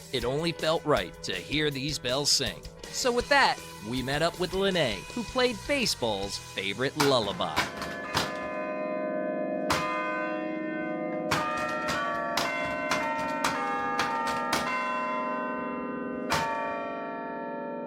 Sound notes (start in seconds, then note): 8.2 bells chiming